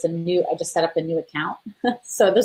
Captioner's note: chuckles